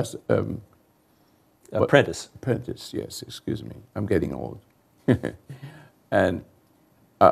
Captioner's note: chuckles